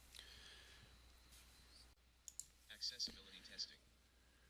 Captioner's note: computer reads "accessibility testing"